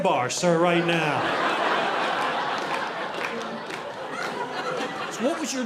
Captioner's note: audience laughing